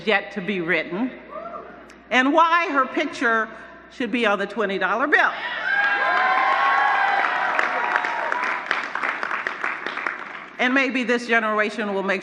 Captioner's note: cheers